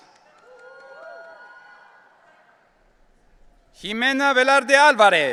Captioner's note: audience cheering